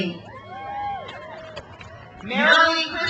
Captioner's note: crowd cheers